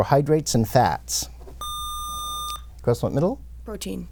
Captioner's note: buzzer